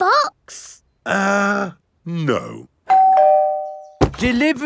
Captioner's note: doorbell rings